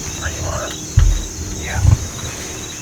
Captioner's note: whispering